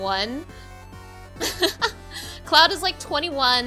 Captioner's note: laughing